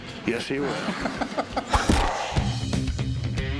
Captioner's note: laughter